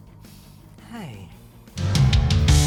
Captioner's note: sighs